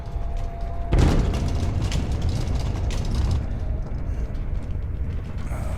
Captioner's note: banging and rattling